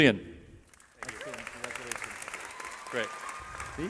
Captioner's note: cheering